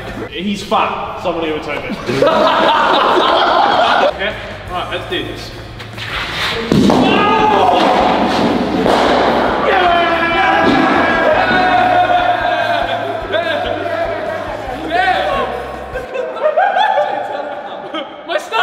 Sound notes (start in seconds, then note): 3.6 group laughing; 7.1 yelling; 9.9 group cheering; 15.9 laughter